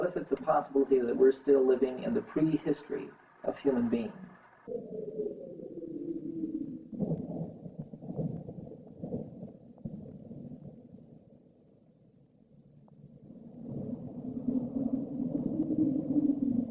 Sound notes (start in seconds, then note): 6.1 wind sounds